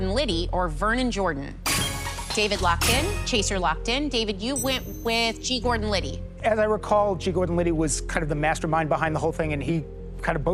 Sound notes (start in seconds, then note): 2.1 chime, chime